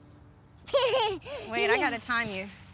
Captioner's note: giggles